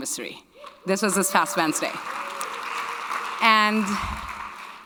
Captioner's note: audience clapping